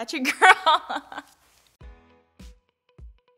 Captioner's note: laughs